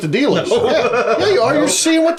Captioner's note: laughs